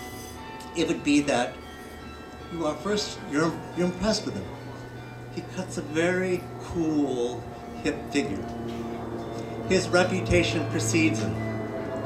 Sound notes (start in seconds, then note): none